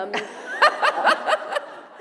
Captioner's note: laughter